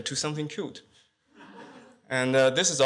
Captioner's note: laughter